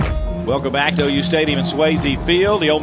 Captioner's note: voiceover